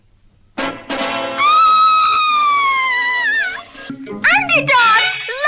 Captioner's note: Sweet Polly Purebred Screams